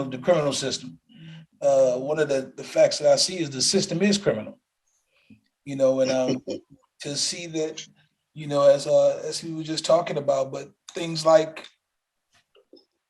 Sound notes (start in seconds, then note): 5.9 laughs